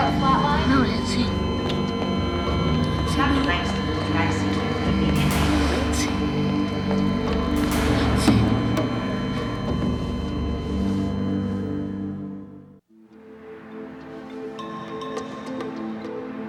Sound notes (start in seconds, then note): 2.3 dramatic music; 2.3 machine beeping; 8.3 machine beeping; 8.3 solemn music